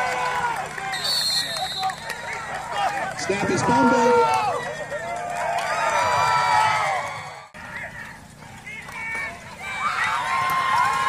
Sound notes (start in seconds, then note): 0.0 applause